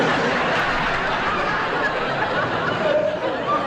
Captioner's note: audience Laughing